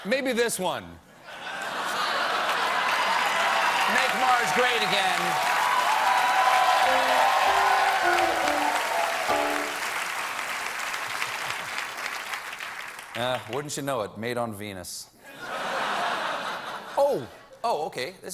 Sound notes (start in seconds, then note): 4.5 applause; 10.3 laughter